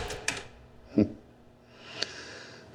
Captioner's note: click; snickering